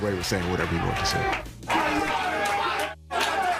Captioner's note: cheering